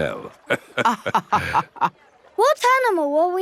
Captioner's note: both laughing